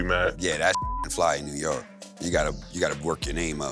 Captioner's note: beep